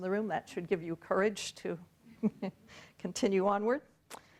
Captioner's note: chuckles